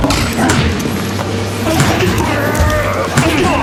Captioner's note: groaning